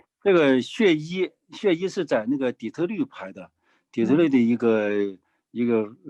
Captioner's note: speaking in foreign language